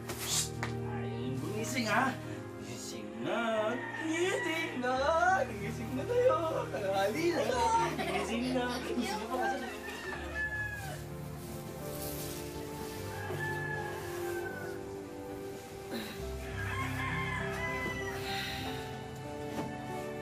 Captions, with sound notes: Psst! You really don't want to wake up? Wake up! Wake up! It's noon! -I don't want to. [laughs] -[laughing] [sighs]